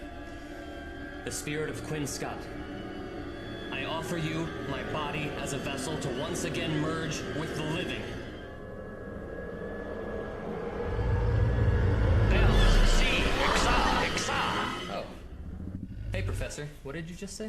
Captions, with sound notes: Lo spirito di Quinn Scott, Ti offro il mio corpo come un vaso per fondersi ancora una volta con i vivi. [IL PROFESSORE CRAWFORD CHE urla indistintamente] Oh. Ehi, Professore. Che cosa hai appena detto?